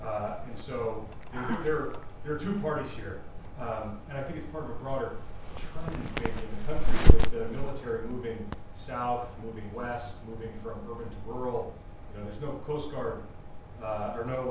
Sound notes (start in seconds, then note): 5.2 microphone noise